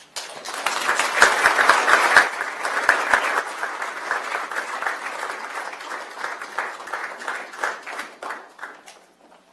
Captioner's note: applause